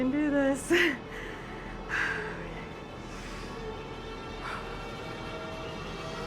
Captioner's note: heavy breathing